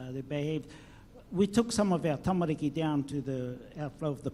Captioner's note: speaks in foreign language